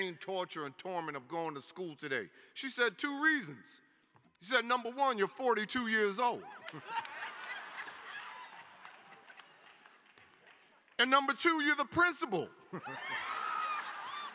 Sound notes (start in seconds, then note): 6.4 laughter; 12.6 laughter